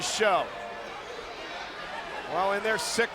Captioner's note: crowd yelling